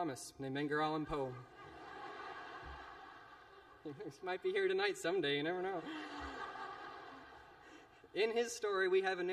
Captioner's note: laughter